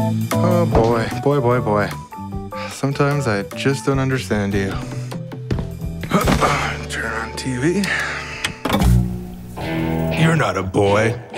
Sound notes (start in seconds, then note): 6.2 grunts; 9.0 tough rock music